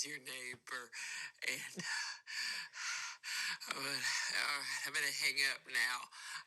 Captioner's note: pants